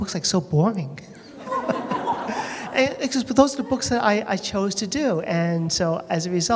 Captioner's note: laughter